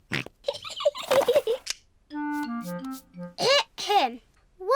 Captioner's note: snorts; giggling